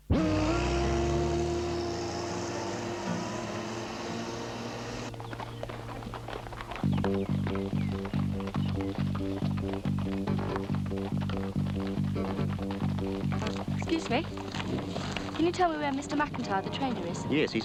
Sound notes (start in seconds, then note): 0.1 tender guitar music; 5.2 hooves clopping; 6.6 upbeat instrumental music